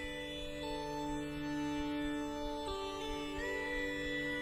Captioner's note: none